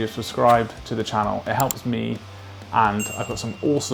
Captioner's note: tiny bell dings